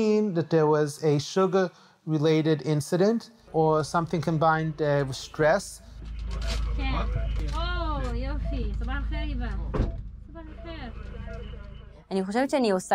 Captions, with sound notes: which could mean that there was a sugar related incident or something combined with stress. (Medics speak foreign language)